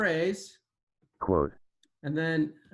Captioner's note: automated voice